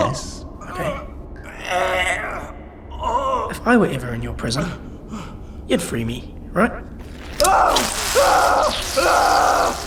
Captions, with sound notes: If I were ever in your prison, You'd free me, right? (ripping, howls of pure pain ) (howling continues)